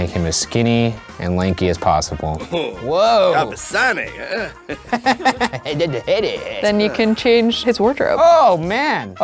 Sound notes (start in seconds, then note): 2.4 character speaking Simlish; 4.8 laughs